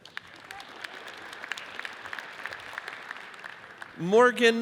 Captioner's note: audience applauds